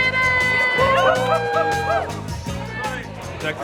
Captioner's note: cheering